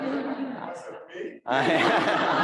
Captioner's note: audience laughs